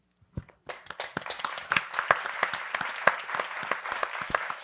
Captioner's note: audience applauding